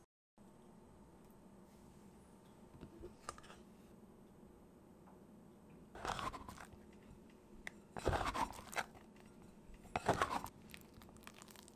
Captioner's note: folding